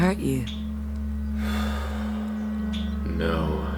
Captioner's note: sigh